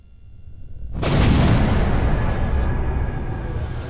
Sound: gun blares

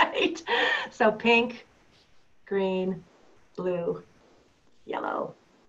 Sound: laughter

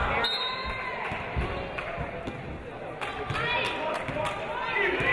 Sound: referee blows whistle

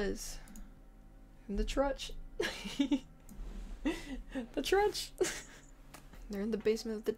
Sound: laughs

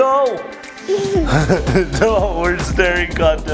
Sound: laughing

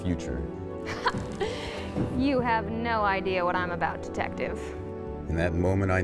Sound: laughs

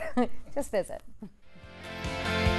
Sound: chuckles

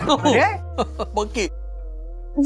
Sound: laughs

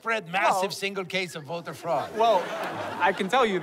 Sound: laughter

